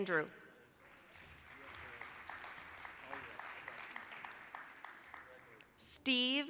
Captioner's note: applause